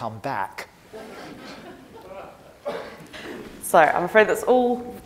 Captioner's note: audience laughing